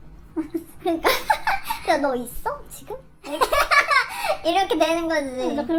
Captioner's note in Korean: 웃음